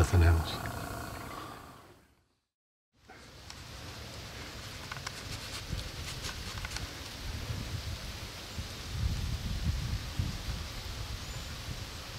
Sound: leaves blowing in the wind

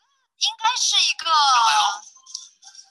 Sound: Mandarin

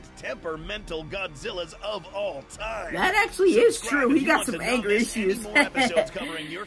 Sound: laughs

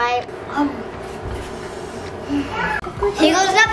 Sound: happy sigh

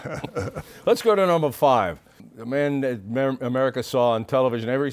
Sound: chuckles

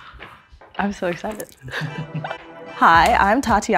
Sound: laughs

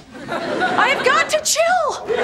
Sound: audience laughing

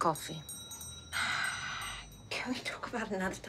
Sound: sighs

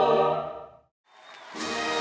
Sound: applause

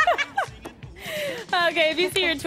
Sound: laughter

